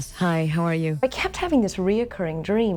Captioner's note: bells chiming